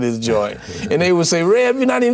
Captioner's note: laughs